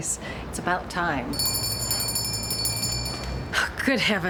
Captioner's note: bell ringing